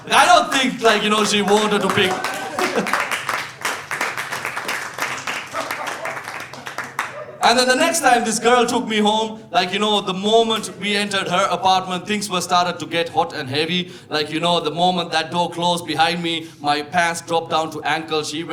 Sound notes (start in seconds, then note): 3.5 audience applauding